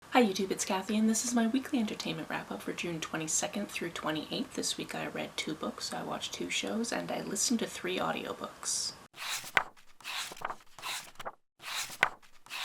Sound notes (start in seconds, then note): 9.2 pages turning